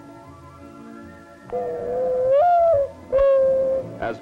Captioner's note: mourning dove call